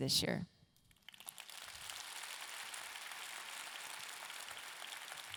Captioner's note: audience clapping